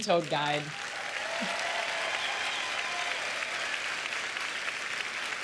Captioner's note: cheers and applause